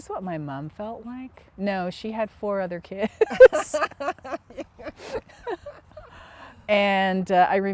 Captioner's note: laughter